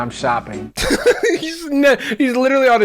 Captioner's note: laughing